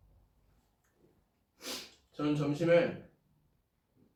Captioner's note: sniff